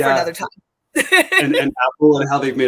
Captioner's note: laughter